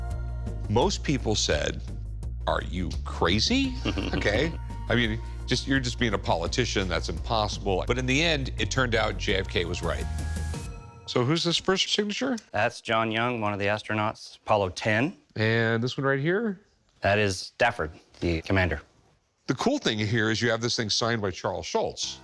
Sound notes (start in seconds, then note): 3.7 chuckles